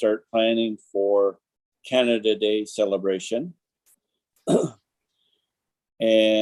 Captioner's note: clears throat